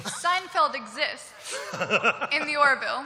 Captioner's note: laughter